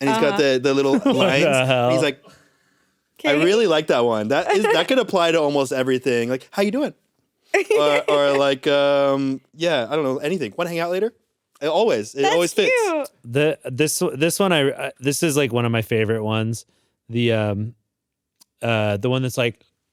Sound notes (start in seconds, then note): 7.6 giggles